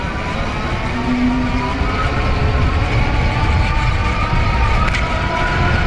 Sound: e-bike motor accelerates

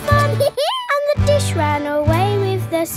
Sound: dog laughs

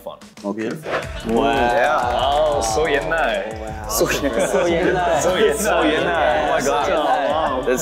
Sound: speaking Korean

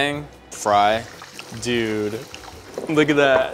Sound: hot oil sizzling

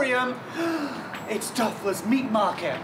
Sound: gasps

